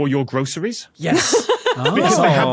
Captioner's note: laughs